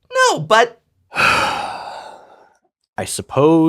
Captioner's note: sighs